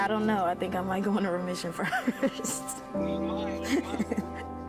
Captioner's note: laughs